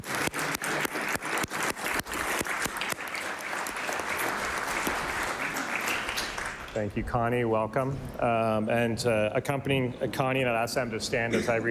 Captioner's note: applause